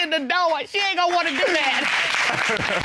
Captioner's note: audience applauds; all laughs